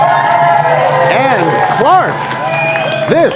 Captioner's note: cheers and applause